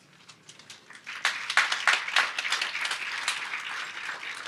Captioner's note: audience applauds